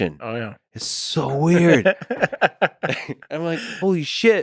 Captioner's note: Tim laughs